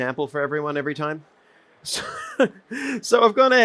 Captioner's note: chuckles